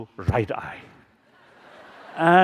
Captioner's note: laughter